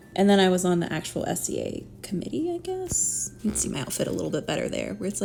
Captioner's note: none